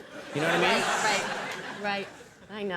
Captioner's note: audience laughing